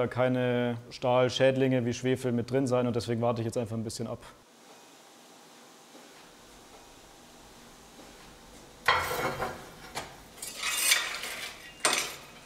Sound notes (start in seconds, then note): 6.4 steady hissing